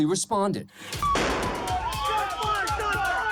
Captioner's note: gunfire